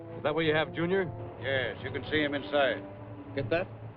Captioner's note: over wire